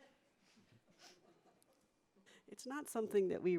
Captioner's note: audience laughing